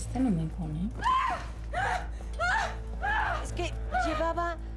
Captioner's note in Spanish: gritos